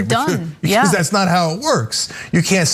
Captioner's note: laugh